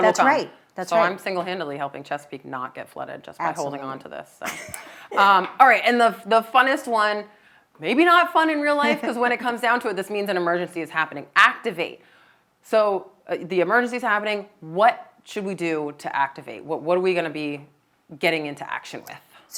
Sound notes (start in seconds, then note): 4.5 laughing